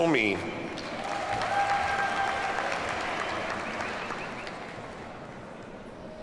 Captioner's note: audience cheers and applauds